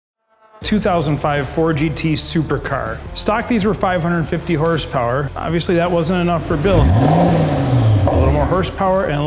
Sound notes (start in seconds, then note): 7.0 engine revving